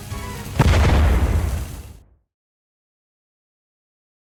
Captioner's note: 💥boom!💥